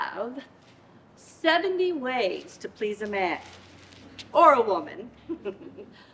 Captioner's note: laughs